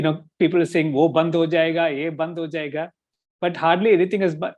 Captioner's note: speaking in Hindi